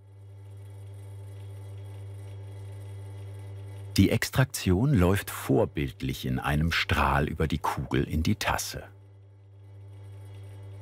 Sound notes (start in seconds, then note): 0.6 quiet whirring